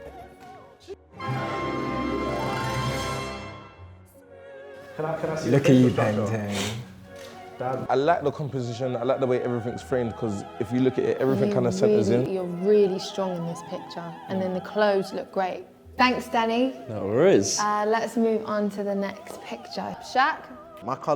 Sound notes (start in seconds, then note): 1.3 theatrical sound